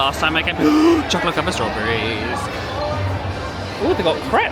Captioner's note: gasps